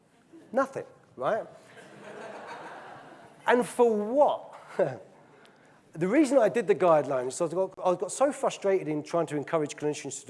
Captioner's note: audience laughing